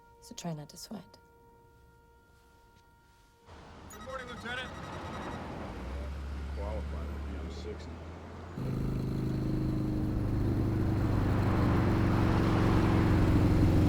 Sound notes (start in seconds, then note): 7.5 text beeping; 9.1 motorbike rumbling